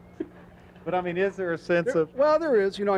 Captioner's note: laughing